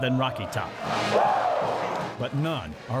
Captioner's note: crowd